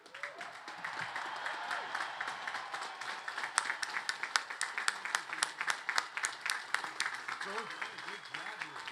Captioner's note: applause